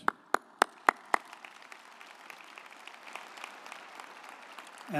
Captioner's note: audience applauding